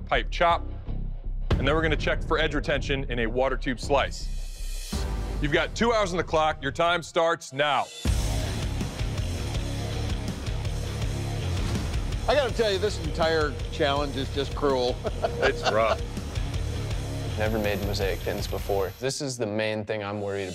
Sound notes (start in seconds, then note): 7.7 rock music; 14.8 laughing